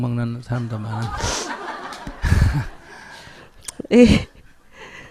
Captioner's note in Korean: 스님과 청중 웃음